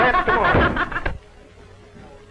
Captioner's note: laughs